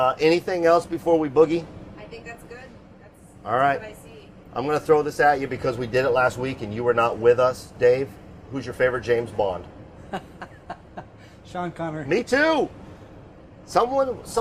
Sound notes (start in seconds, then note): 10.0 laughing